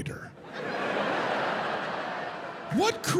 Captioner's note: audience laughing